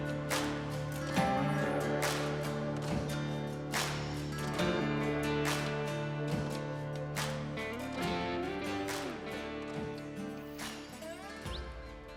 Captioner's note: birds chirping